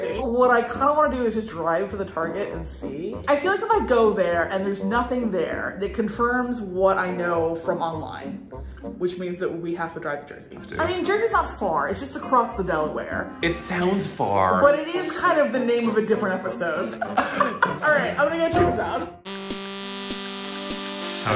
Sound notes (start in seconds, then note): 15.6 laughing; 19.2 fun music